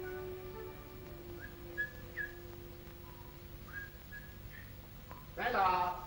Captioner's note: whistles faintly